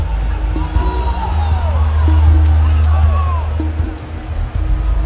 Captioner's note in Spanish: Gritos